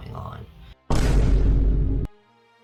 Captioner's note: dramatic boom